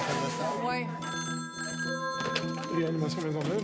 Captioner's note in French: sonnerie de téléphone